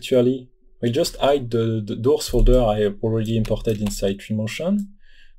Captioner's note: Doors